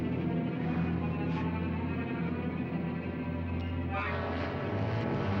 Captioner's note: none